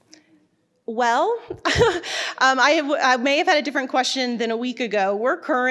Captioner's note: laughs